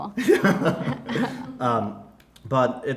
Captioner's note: laughing